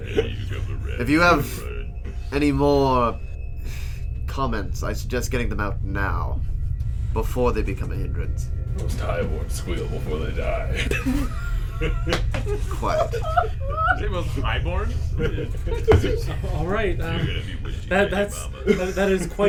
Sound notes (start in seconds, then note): 0.0 laughing; 0.0 laughter; 3.2 sighs in disgust; 12.3 more wheezing laughter; 15.2 laughs, nodding